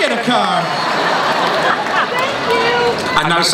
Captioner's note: laughing; voiceover